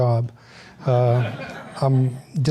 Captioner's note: audience laughs